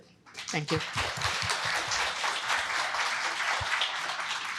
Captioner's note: applause